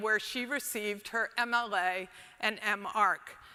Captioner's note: none